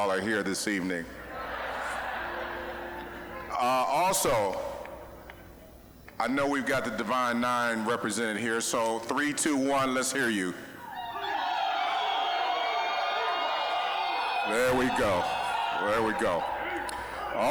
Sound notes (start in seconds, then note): 1.1 audience laughing; 10.8 audience cheering